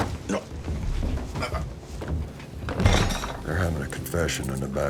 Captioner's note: grunting